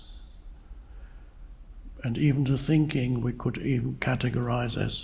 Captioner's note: none